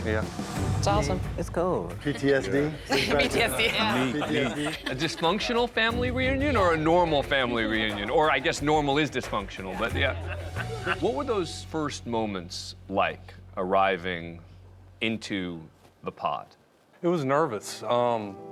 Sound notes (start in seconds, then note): 2.7 laughs